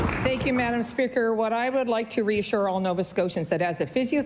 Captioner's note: applause